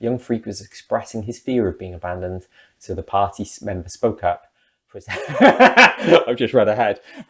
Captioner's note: big laugh